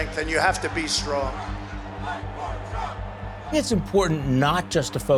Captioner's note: crowd chanting